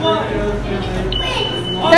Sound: bell rings

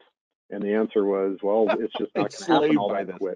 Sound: laughing

